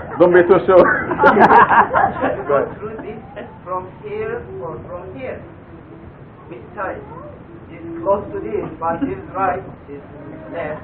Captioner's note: Gülüşmeler